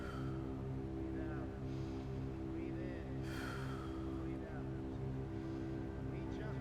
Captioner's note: breathes deeply